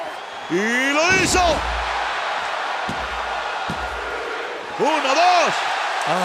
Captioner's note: applause